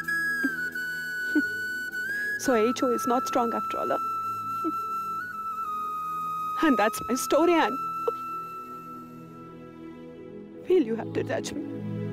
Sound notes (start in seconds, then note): 4.6 sobs